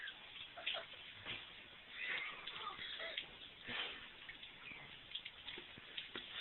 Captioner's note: real crying